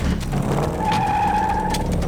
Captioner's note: tires squeal